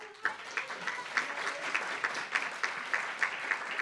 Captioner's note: applauds